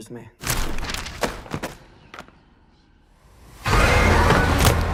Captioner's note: pages flutter; Bible thuds; tense music